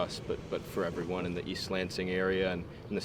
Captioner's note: none